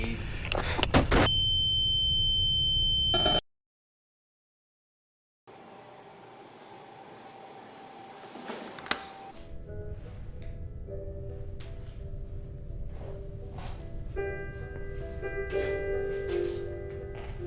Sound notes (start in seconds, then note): 1.7 high pitched tone; 9.3 light piano music